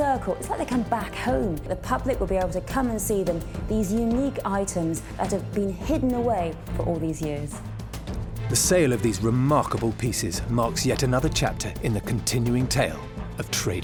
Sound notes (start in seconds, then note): none